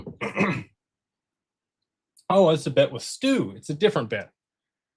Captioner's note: clears throat